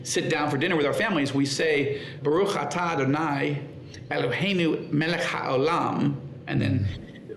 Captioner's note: speaking in foreign language